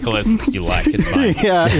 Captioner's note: laughs